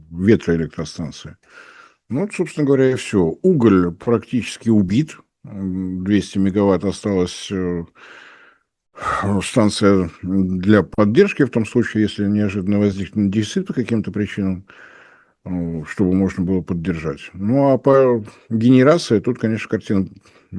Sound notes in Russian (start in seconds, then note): 7.9 тяжело вздыхает; 8.0 вздыхает